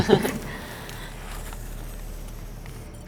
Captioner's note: laughing